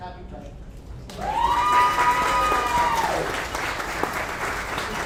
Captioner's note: audience applauds